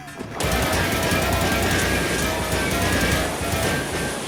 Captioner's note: weapon blasts